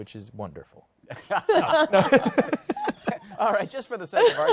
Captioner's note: laughter